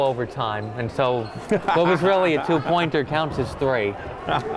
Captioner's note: laughing